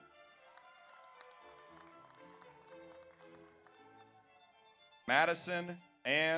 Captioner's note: audience applauds; audience cheers